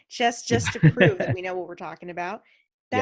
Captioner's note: laughs